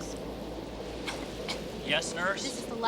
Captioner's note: child coughing